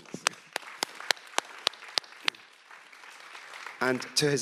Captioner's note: audience applauds